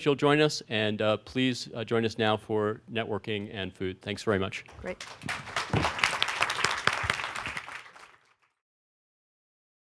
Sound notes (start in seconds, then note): 4.8 applause